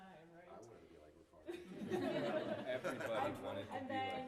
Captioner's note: laughter